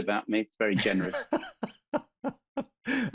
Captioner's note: laughing